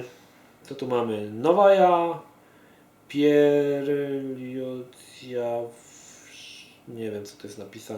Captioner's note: Russian